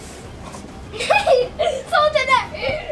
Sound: laughs

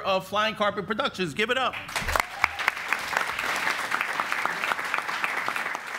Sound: audience applauds

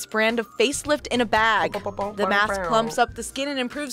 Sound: mimics air horn

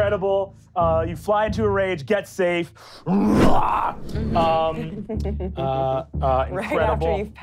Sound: growling

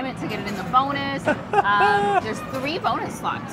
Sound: laughs

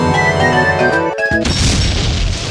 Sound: explodes

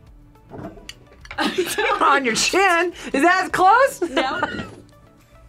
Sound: laughs

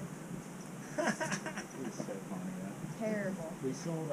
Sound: laughs

